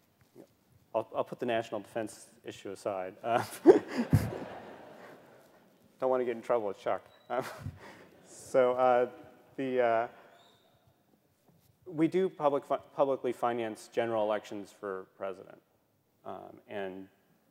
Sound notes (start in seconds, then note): 3.4 laughter